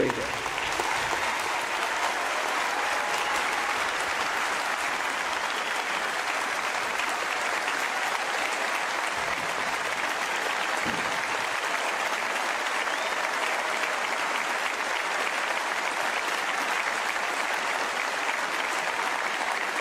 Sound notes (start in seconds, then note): 4.1 applause